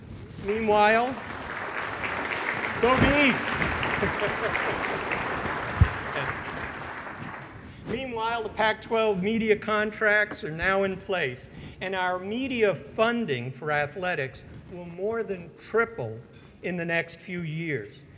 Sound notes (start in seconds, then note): 0.4 applause